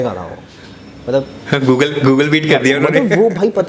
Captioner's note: laughs